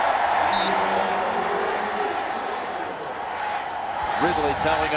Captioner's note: whistle blows